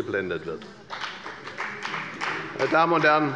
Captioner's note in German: Beifall bei der FDP